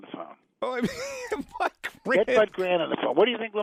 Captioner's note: laughs